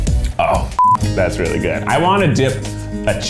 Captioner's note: beep